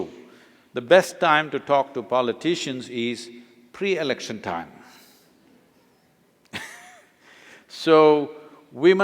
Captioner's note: laughs